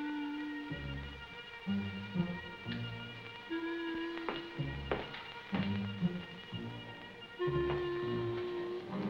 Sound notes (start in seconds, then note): 3.2 footsteps